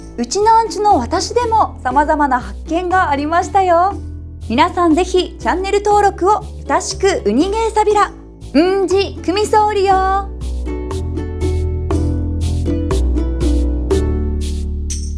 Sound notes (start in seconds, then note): 8.2 in Okinawan